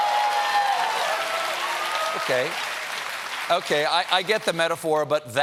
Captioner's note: cheers and applause